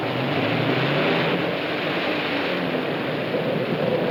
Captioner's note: engine revs